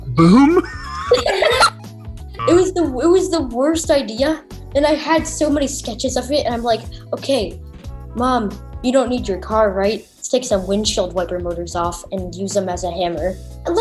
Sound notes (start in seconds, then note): 0.1 laughs